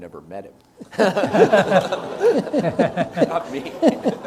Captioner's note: audience laughs